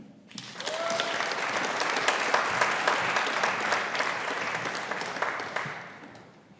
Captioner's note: audience applauding; audience cheering